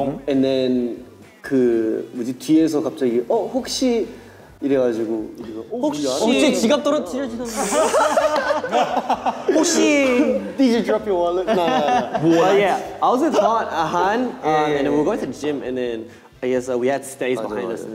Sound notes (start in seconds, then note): 1.7 speaking in Korean; 7.4 all laughing